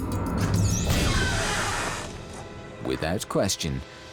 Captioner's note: door creaks